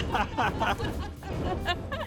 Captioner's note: laughing